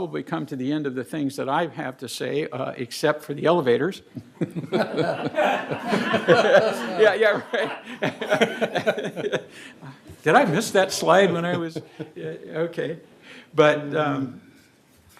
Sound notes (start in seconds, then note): 8.6 laughter